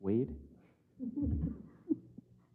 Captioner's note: laugh